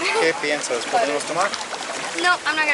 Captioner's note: speaking Spanish